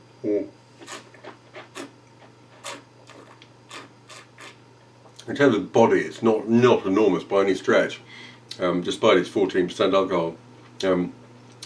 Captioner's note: slurping